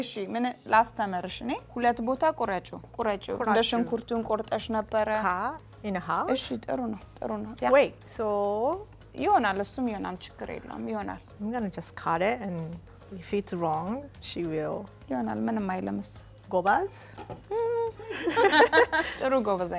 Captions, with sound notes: - Cut in half? - (speaking Amharic) - I'm gonna just cut it, and if it's wrong, she will- - (speaking Amharic)